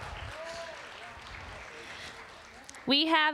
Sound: applause

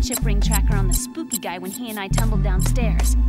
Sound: beeping

